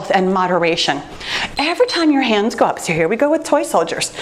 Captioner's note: timer beeps